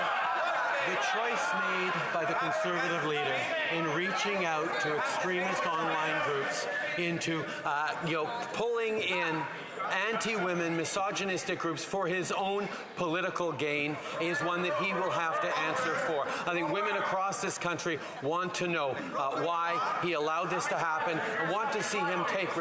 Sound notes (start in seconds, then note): 4.0 yelling